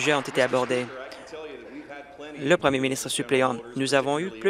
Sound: applause

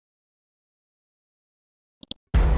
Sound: mouse clicks; dramatic chord

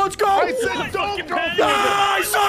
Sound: screaming

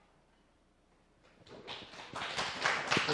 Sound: applause

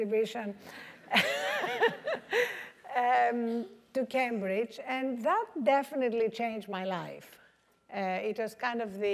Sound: laugh

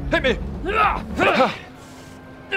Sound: hrgh

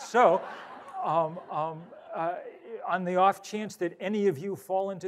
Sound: audience laughs

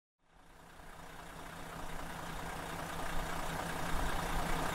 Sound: engine revving

